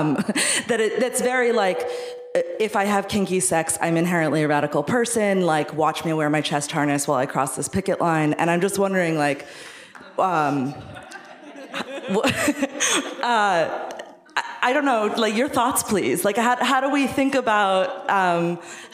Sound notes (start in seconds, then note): 10.5 laughing